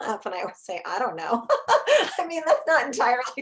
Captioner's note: chuckles